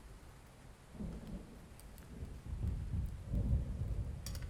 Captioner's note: thunder rolling